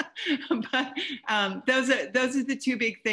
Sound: laughs

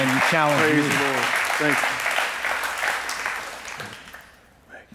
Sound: congregants clapping

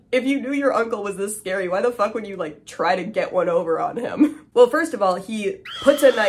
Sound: scream

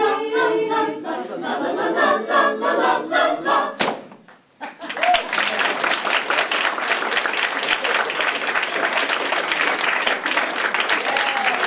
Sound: appluase

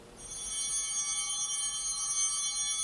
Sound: altar bell ringing

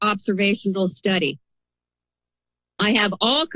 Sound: pause

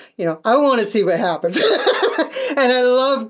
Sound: laughing

